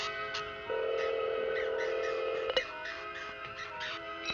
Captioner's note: telephone ringing